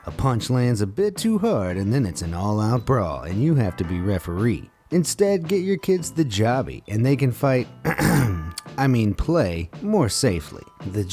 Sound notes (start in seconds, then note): 7.8 clears throat